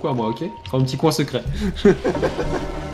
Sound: laughs

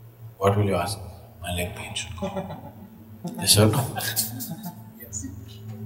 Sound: laughter

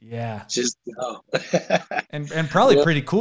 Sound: laughs

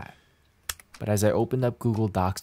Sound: keyboard clacks

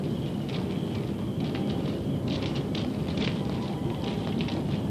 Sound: cicadas singing; footsteps on gravel

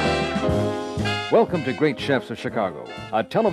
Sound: jazzy music; voiceover

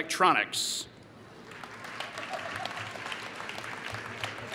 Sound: applause

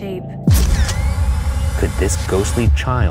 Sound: dramatic music; camera shutter clicking

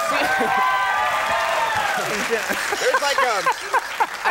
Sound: audience cheering

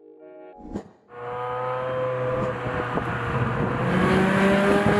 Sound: car engine revving

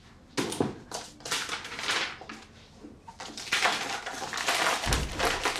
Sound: paper crinkling

